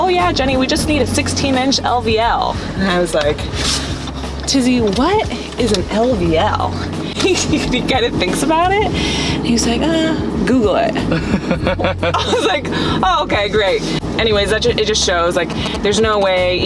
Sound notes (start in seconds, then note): 6.9 laughs; 11.0 man laughs